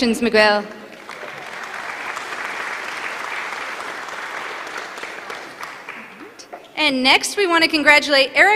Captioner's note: applause